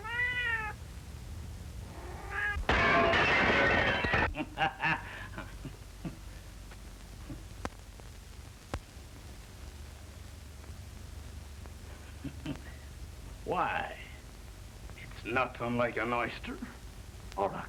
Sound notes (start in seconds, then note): 0.0 cat meowing; 5.3 glass shatters